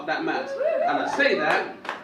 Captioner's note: audience woop